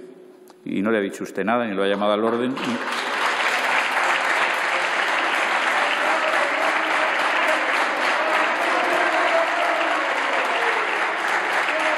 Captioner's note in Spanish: Aplausos.-Protestas